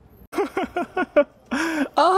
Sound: laughs

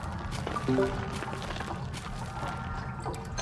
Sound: weird crunchy walking noise

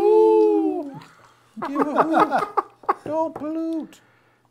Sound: laughing

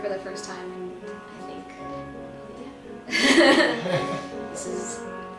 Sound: laughs

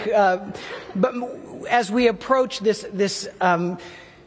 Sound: laughter

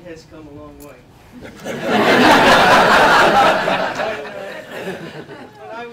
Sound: laughter

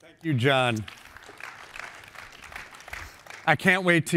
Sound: applause

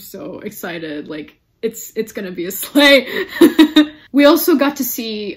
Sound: laughs

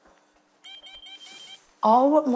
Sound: machine beeping

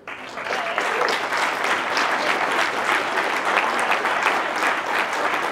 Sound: applause

